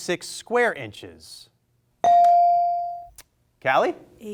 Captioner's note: bell rings